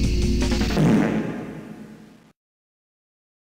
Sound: fartwithreverb.wav

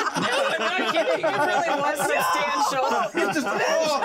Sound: laughs

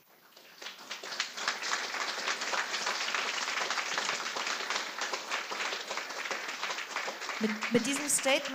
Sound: applause

